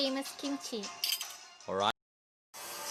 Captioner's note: utensils clanking